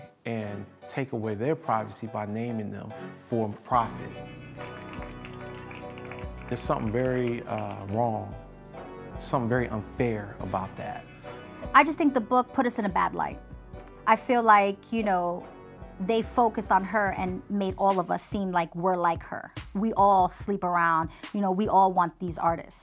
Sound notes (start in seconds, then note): 4.5 crowd lightly claps